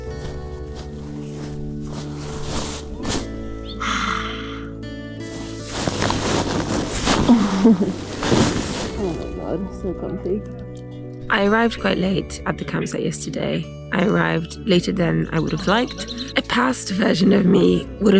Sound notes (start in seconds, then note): 0.0 bag rustling; 0.1 gentle peaceful music; 3.6 sighs; 5.2 bag rustles; 7.3 runner chuckles